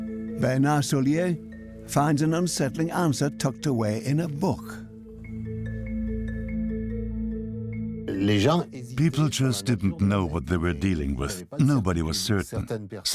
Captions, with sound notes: Bernard Soulier finds an unsettling answer tucked away in a book. (French dubbed into English) People didn't know what it was. Nobody was certain.